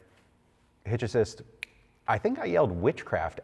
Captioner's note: snaps fingers